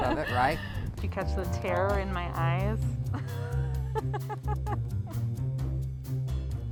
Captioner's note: laughing; bouncing music